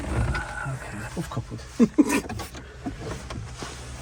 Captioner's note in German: lacht